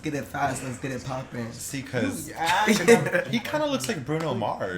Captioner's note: laughter